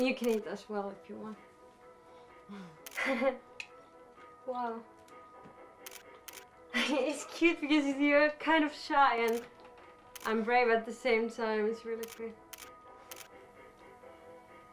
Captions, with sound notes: You can eat as well if you want. (laughing) Wow. (camera shutter closing) It's cute because you are kind of shy and brave at the same time. It's really pretty.